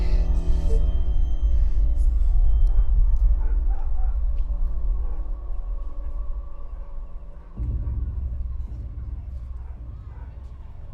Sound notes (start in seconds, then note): 0.0 Stone whimpers; 2.7 dog barking in distance